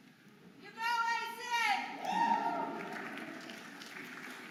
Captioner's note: audience applauding and cheering